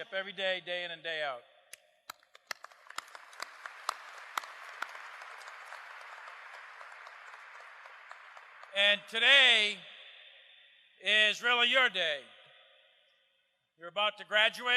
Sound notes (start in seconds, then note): 2.0 applause